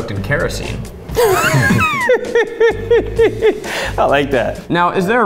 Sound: laughs

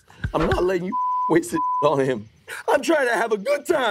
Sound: awkward music; beep

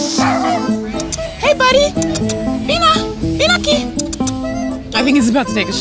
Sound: kissy noises; speaks in Spanish

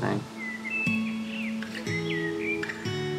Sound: birds chirping; soft guitar music

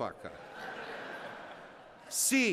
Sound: laughter

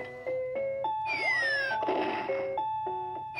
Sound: bomb explodes

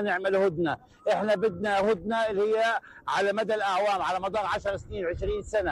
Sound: speaking in a global language

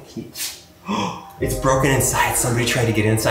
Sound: gasps

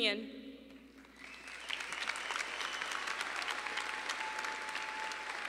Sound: audience applauding

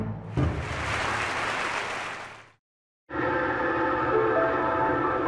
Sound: light music; audience applauding; soft piano music

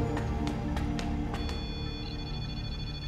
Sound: beeping

